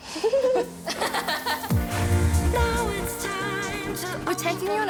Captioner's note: both laugh